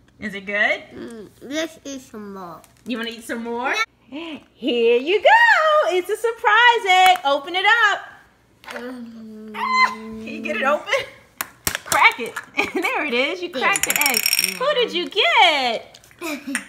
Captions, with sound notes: Is it good? - Let's eat some more. - [Voiceover] You wanna eat some more? Here you go! It's a surprise egg, open it up. Can you get it open? Crack it. There it is, you cracked the egg. Who did you get?